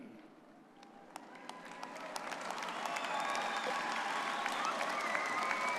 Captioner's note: audience cheering and applauding